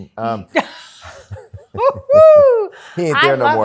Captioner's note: laughter